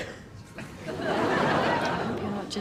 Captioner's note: audience laughs